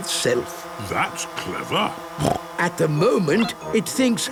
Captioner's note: snorting